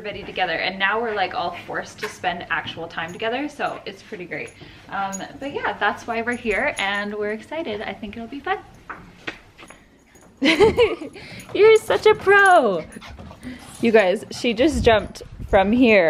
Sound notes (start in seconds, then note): 10.4 laughing